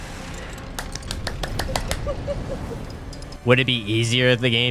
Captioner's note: claps for herself